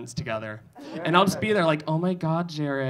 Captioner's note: audience laughing